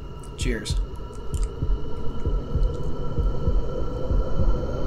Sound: suspenseful whooshing

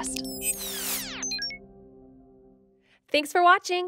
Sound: machine beeps

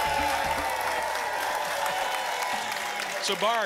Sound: applause and cheering cont

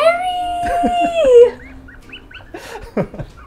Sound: giggles

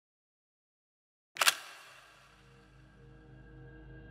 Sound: camera shutter clicking; high intensity music

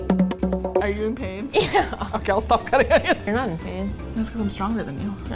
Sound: rhythmic drumming; laughing; laughs

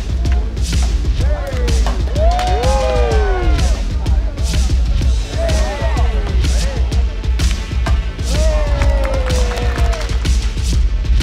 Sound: cheering

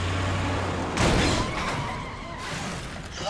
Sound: crash

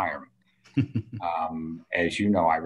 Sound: person chuckles

